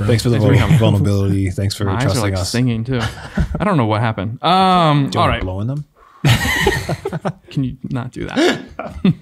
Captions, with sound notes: - Thanks for the vulnerability. Thanks for trusting us. - I like singing too. I don't know what happened. - Do you wanna blow on them? (men laughing) - Can you not do that?